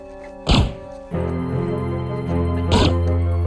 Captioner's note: gun pops